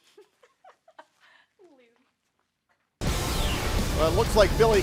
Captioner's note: laughter